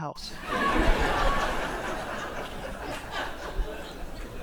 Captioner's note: people laughing